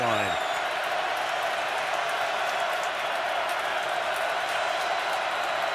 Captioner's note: crowd cheering